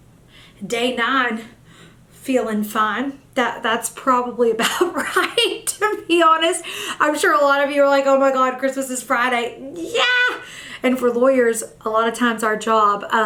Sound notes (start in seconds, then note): 9.6 exclaims